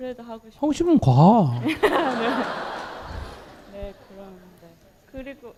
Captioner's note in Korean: 청중 웃음